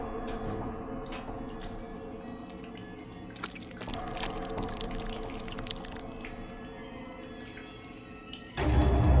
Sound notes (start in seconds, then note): 3.3 liquid splattering